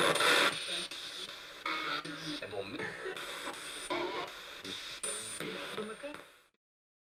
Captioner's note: sound of the Spirit Box in the background